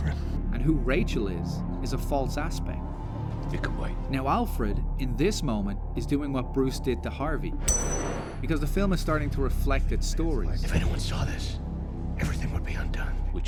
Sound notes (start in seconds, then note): 7.7 coin Flip